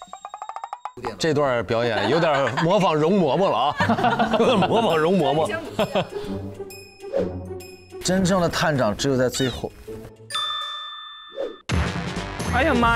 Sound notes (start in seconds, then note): 5.3 haHaHaHa